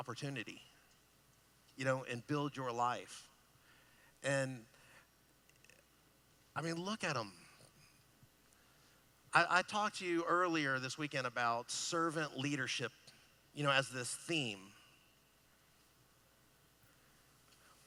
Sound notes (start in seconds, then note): none